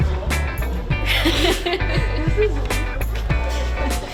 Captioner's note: bright music; laughing